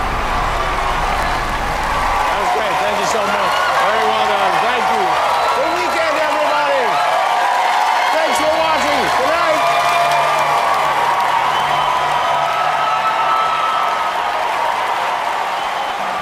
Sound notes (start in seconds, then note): 0.0 crowd Cheering; 6.8 crowd Cheering; 9.6 crowd Cheering